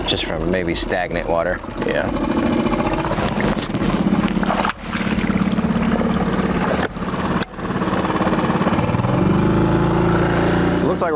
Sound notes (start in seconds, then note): 4.9 water splashing; 9.0 boat engine revving